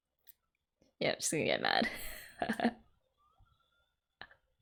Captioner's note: laughs